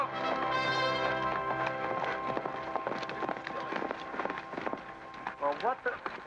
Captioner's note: hooves pounding